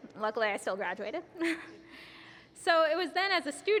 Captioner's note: laughs